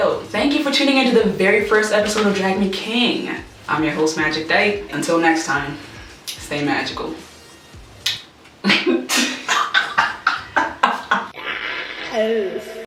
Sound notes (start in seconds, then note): 8.0 kiss; 8.6 laughter